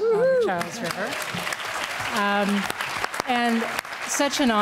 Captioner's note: applause